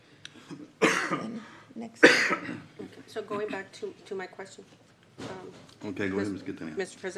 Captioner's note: clears throat; cough